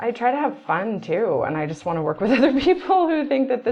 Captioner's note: laughs